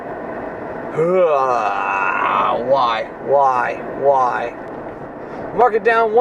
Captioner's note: moaning